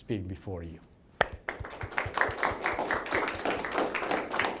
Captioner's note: crowd applauds